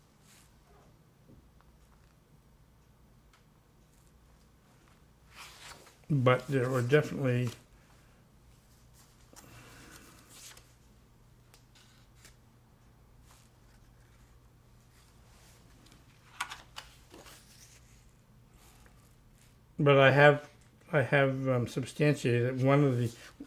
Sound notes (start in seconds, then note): 0.1 silence; 9.1 pause